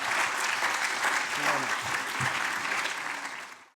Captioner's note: applause